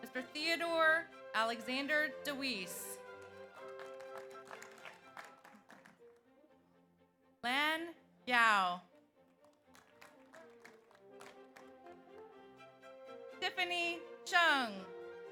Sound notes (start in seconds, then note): 3.0 audience applauds; 9.2 audience applauds